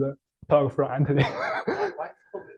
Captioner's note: laughs